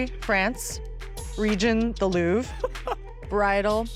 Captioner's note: laughing